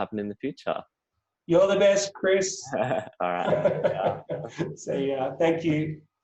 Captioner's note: both laughing